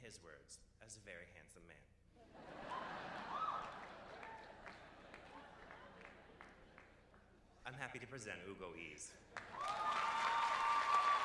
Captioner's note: cheers and applause